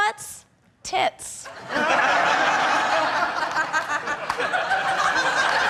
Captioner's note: audience laughing